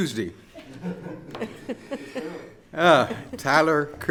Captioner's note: laughing